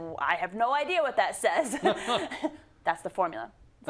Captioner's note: laugh